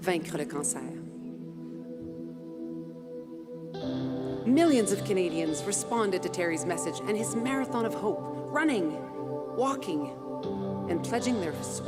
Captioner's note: speaking French